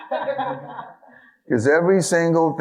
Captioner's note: audience laughing